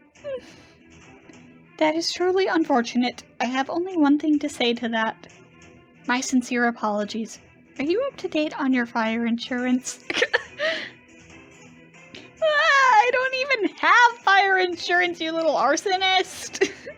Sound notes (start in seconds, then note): 10.0 laughs